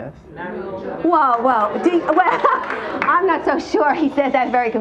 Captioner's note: laughs